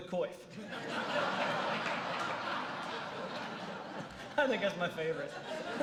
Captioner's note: laughter